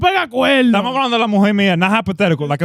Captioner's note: speaking In Foreign Language